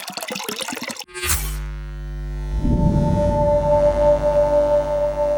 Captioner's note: water droplet plops; electricity buzzing